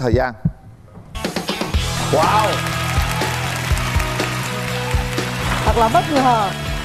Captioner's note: applause